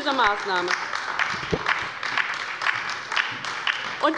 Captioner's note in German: Beifall bei der LINKEN und der SPD